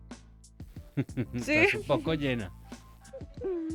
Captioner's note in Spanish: Risas